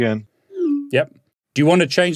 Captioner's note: text send tone